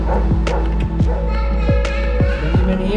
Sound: dog barking

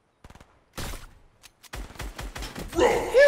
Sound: gunfire

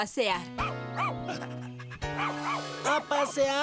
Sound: barking & Panting

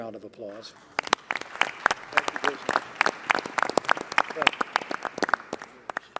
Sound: applause

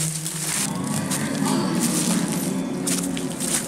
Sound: sirens

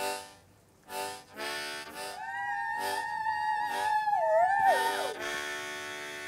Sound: distant cheering

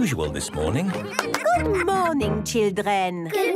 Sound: claps

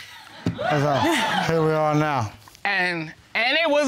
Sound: audience laughing

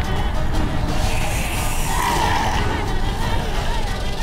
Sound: growling in distance; hissing

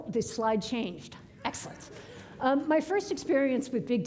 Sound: audience laughing

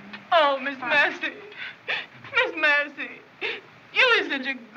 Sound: crying

